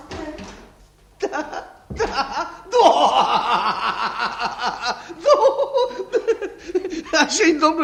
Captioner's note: laughs heartily